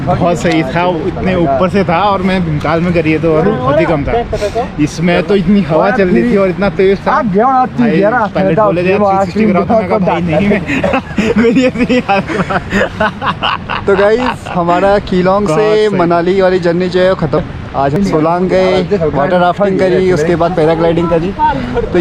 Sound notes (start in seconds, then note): 12.6 laughs